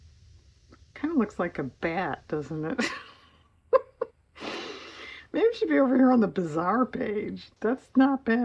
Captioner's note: laughs